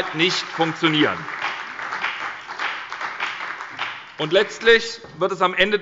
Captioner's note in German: Beifall bei der SPD und der FDP